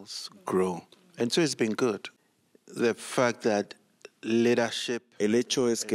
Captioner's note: Hablando idioma extranjero